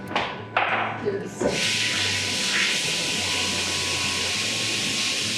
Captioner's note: water running